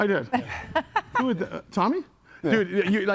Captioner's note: laughs